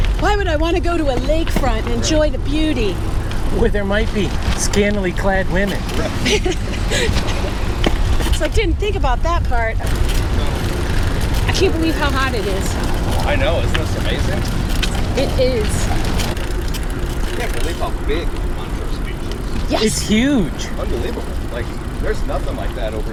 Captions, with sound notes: Why would I want to go to a lakefront and enjoy the beauty? Where there might be scantily clad women? [laughter] Right. You didn't think about that part. I can't believe how hot it is. I know. Isn't this amazing? >>It is. I can't believe how big Montrose Beach is. >>Yes! >>It's huge! Unbelievable. Like there's nothing like that over in Indiana.